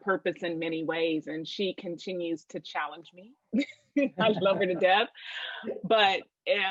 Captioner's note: laugher